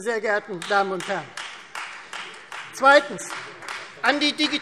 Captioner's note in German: Beifall Freie Demokraten